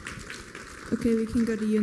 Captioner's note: applause